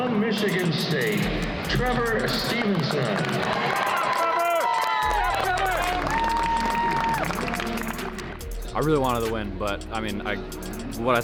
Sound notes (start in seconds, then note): 3.6 crowd cheering; 7.0 crowd clapping